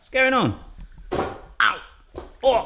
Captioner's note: thud